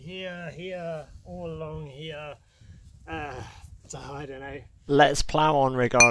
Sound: sigh!

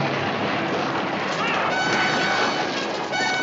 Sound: groans

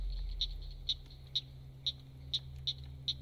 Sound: cricket sounds

